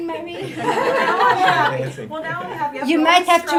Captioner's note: audience laughing